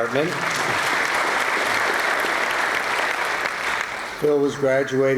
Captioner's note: applause